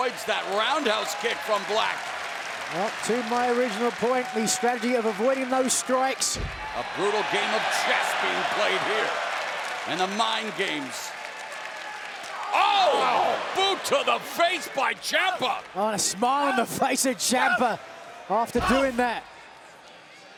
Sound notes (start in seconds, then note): 2.2 crowd applauds